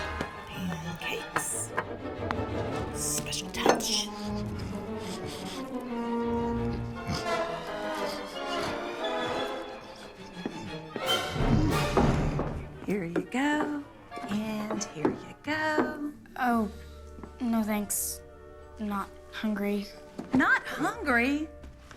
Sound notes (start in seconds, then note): 4.1 munching